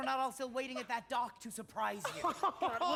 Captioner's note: laughing